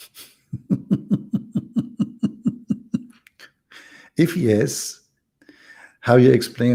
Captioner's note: Ketawa